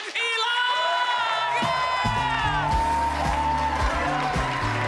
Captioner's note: crowd cheering